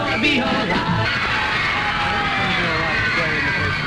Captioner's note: screams and applause